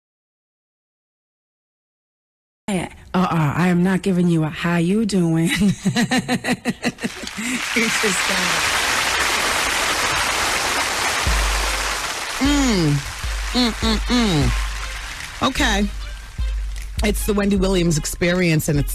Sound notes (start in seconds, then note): 7.3 audience applauds